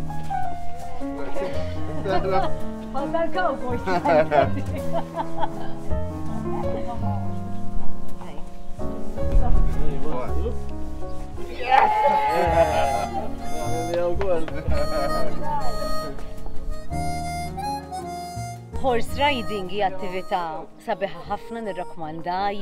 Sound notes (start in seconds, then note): 2.0 laughs